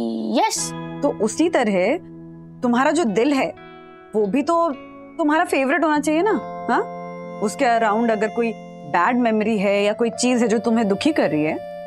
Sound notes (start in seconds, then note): none